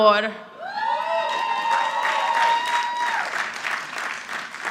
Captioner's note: audience applauding